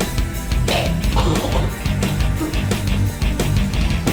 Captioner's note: heavy rock music; gagging